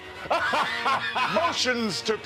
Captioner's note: laughter